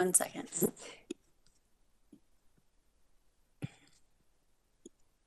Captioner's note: mouse button clicking